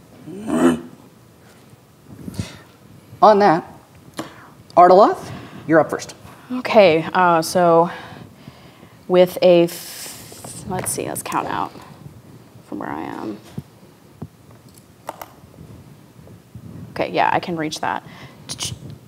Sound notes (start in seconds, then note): 0.2 imitates owlbear grunting; 3.0 regular voice